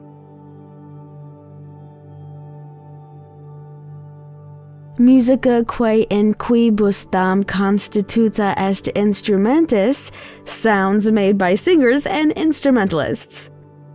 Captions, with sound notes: (speaking foreign language), sounds made by singers and instrumentalists.